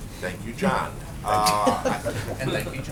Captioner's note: laughter